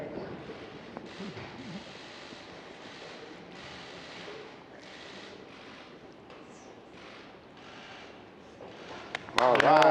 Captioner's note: applause